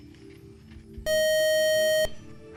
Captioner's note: buzzer